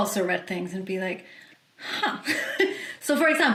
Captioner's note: chuckles